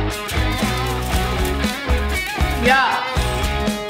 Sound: ice smatters

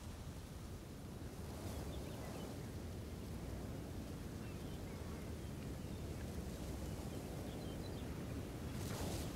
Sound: wind

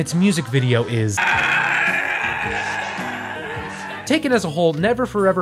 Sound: garbled screaming

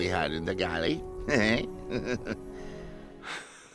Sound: chukles

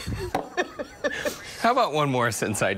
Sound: laughter

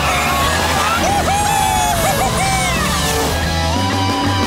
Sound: cheering

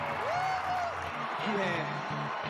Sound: cheers and applause

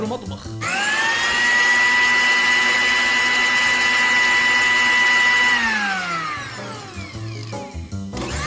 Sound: Loud Clinex machine sound

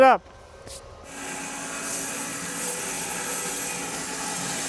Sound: saw blade humming

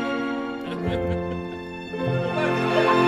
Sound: low laughs

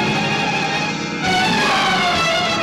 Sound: screams

